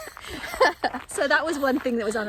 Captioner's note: laughs